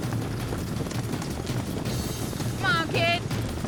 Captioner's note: horses galloping